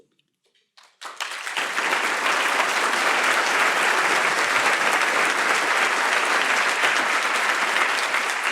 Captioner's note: applause